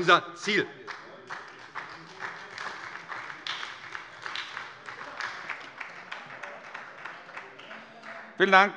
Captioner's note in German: Beifall bei der SPD - Zurufe von der CDU